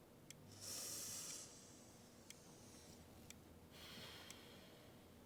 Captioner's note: Annie inhales and exhales